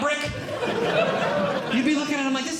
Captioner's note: audience Laughing